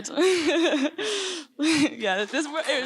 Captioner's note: laughter